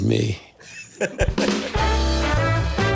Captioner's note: laughing